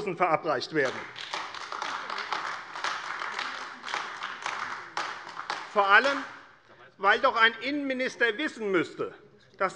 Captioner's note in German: Beifall AfD